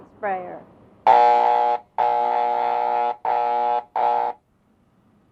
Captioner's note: electronic sprayer buzzing